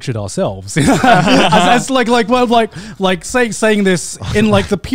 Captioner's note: laughs